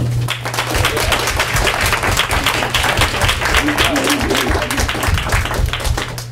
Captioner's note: applause